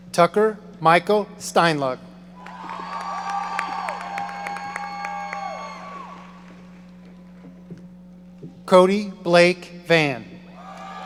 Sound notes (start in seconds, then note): 2.4 audience cheering; 10.6 audience cheering